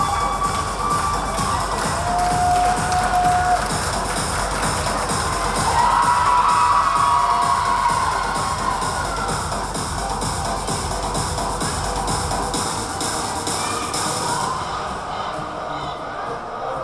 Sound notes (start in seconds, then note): 0.7 yelling; 9.2 upbeat music